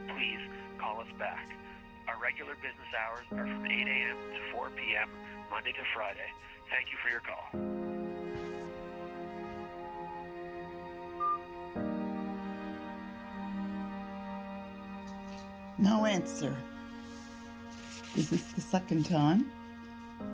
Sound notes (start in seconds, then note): 8.2 soft poignant music; 9.5 phone beeping